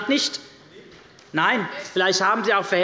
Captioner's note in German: Zuruf der Abg